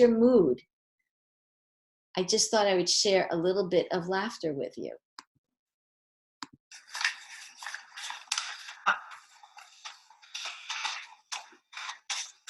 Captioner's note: laughter from the baby starts; paper tearing sounds